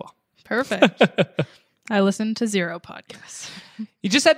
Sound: laughs

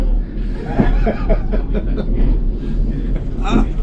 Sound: laughter

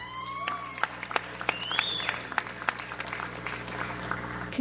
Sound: audience applauds

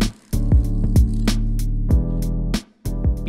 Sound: beetle wings flapping

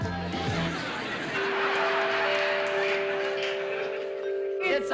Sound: doorbell playing melody

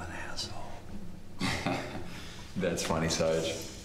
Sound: chuckles

